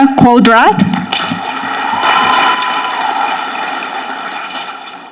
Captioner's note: audience clapping